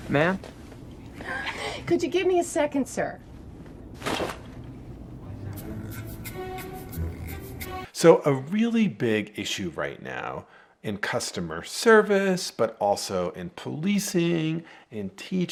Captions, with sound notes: - Ma'am? - Could you give me a second, sir? (curtain shuts) - So, a really big issue right now in customer service, but also in policing, in teaching,